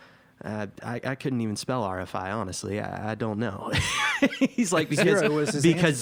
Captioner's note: laughs